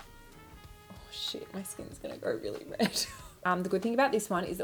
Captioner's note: laughs